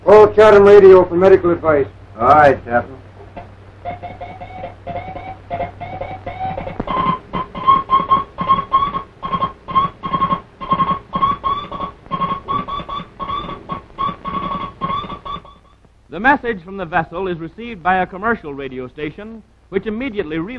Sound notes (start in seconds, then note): 3.8 morse code signals being sent